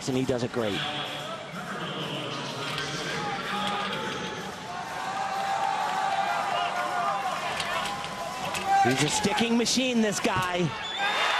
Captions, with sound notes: And he does it great. (audience cheers) He's a sticking machine, this guy.